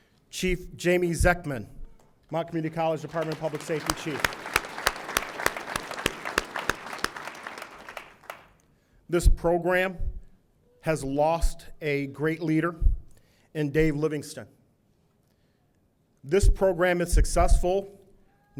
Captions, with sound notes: Chief Jamie Zecman, Mott Community College Department of Public Safety chief. (audience applauding) This program has lost a great leader in Dave Livingston. This program is successful,